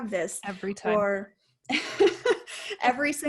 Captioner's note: laughing